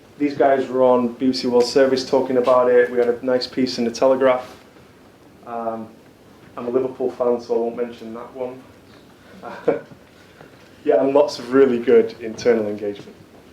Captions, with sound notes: These guys were on Beauty Well service talking about it. We had a nice piece in the Telegraph. I'm a Liverpool fan so I won't mention that one. (chuckles) And lots of really good internal engagement.